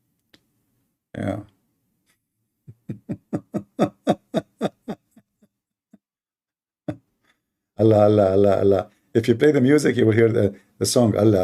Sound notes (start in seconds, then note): 2.7 Ketawa